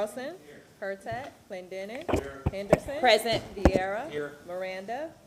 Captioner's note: gavel sounding